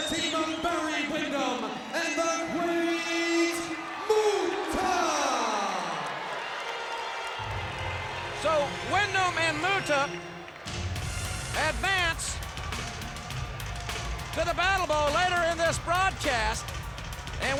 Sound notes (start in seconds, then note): 5.7 audience applauds and cheers